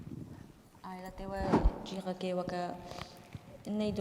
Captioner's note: speaking kurdish